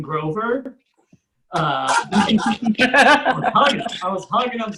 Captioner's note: audience Laughs